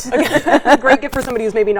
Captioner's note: both laughing